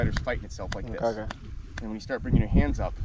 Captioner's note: hands clapping